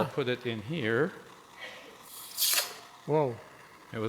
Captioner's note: sizzles